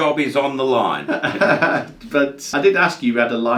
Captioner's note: laughs